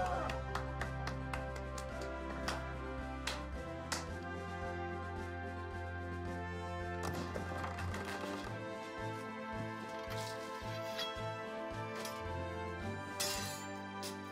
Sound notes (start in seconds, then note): 0.0 cheering and applause; 10.2 sword swishes